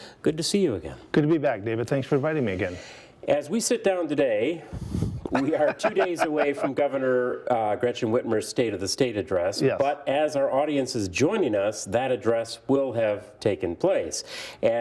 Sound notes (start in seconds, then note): 5.3 laughs